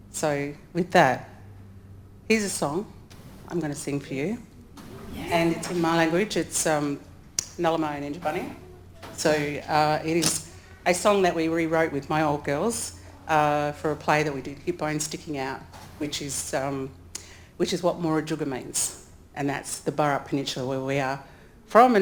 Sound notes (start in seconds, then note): 6.5 speaks in foreign language